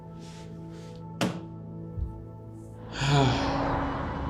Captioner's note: phone thuds; traffic whooshing; Jack sighs